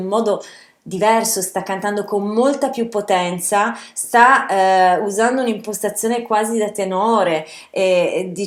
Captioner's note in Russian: голоса